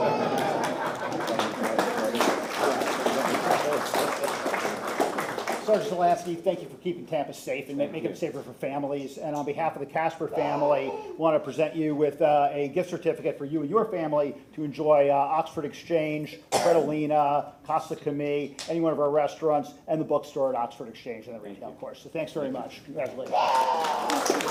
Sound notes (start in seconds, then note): 4.6 applause